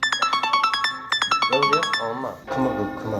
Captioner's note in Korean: 문자알림